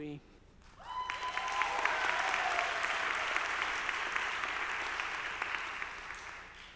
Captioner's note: audience applauding; audience cheering